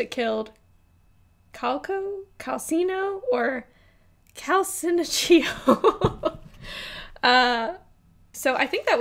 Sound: laughs

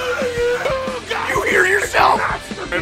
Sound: Harry potter screaming; screaming

